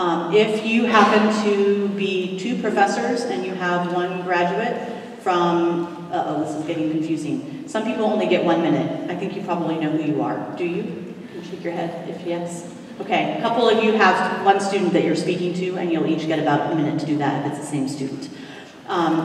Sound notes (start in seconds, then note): none